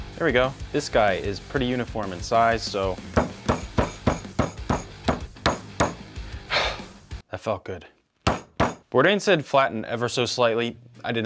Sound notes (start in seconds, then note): 3.2 hand thudding; 3.4 energetic music; 6.2 exhales heavily